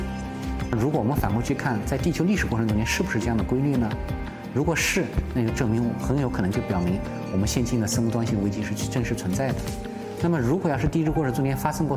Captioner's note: speaking Chinese